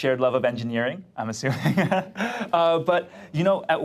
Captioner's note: laughs